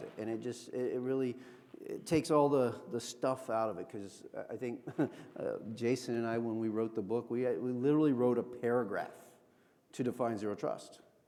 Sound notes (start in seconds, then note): 4.7 chuckles